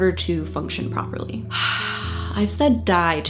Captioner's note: sighs deeply